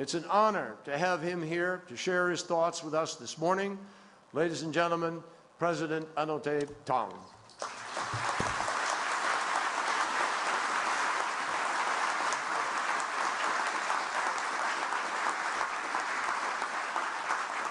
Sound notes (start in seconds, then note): 12.0 applause